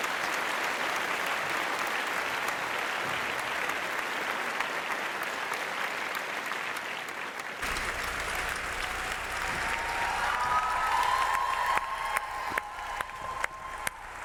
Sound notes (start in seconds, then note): 10.0 audience cheering